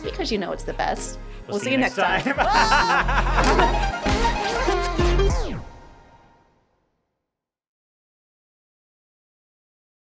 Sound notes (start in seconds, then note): 2.2 both laughing; 2.7 upbeat music